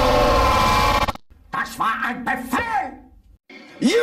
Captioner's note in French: criant en anglais clair